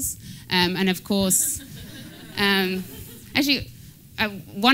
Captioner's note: laughter